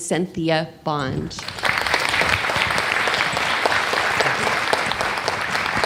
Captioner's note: audience clapping